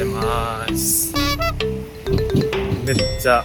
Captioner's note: haha